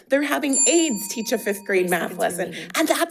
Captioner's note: bell dings